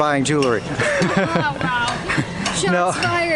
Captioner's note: both laughs